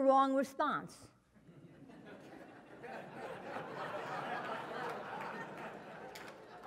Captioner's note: laugh